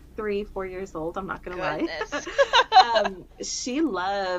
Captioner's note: laughter